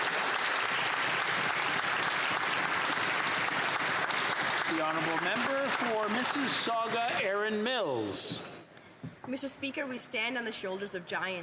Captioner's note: applause